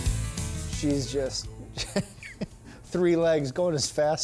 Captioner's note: laughing